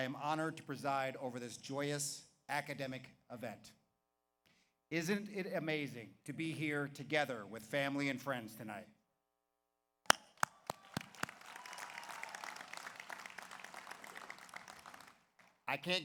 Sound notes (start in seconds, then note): 10.1 claps; 10.4 audience applauds; 10.5 audience cheers